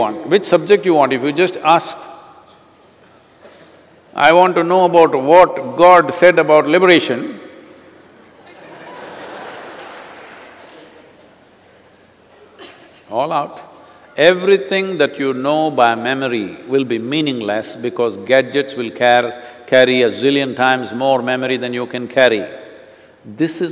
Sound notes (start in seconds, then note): 11.5 laughter